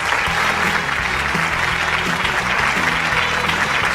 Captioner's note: cheers and applause